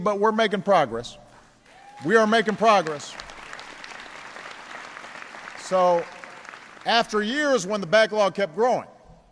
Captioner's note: applause